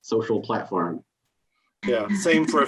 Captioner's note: laughs